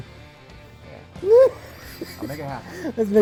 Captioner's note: laughs